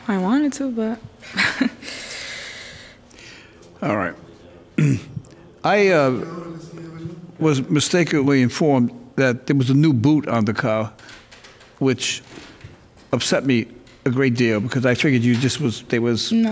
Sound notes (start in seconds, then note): 2.5 laughing; 4.7 clears throat